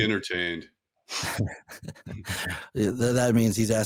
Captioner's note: chuckling